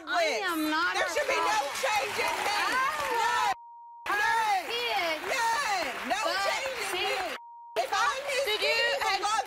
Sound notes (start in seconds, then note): 4.3 beep